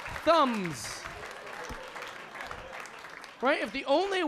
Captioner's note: audience clapping